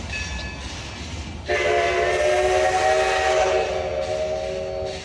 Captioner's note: classic steam whistle